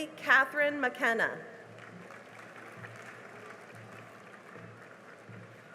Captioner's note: cheering and applause